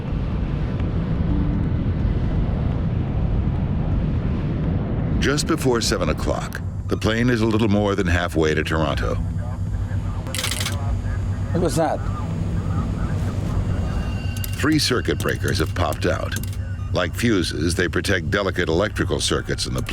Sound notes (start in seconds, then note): 10.2 breakers popping